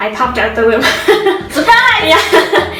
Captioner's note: laughs